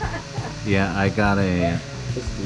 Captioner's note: laughter